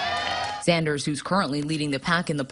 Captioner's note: cheers